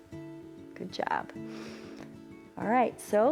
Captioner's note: inhales